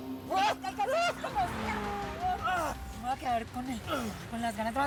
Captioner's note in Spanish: quejidos de jota